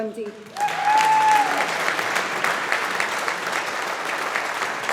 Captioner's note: audience applauding